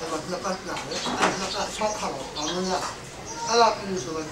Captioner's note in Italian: parla birmano